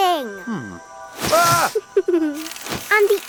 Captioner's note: Dad screams; giggles